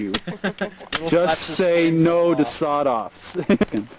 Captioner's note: laughter; laughter